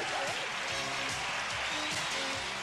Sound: applause

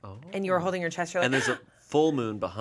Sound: gasps

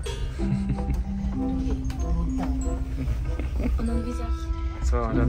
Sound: background music; laugh

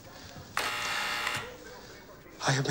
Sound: intercom buzzes

